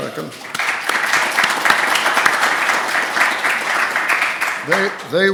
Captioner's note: applause